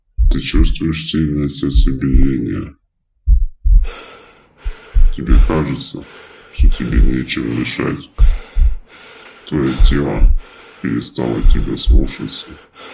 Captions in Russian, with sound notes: Ты чувствуешь сильное сердцебиение [Звук тяжелого дыхания] Тебе кажется, что тебе нечем дышать Твоё тело перестала тебя слушаться